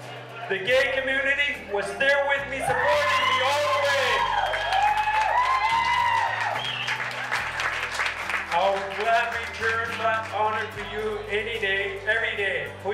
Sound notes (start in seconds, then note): 4.7 people cheering; 12.7 speaks in foreign language